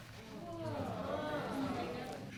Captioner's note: audience murmuring